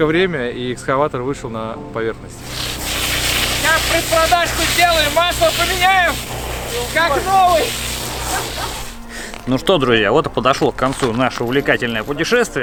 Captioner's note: laughs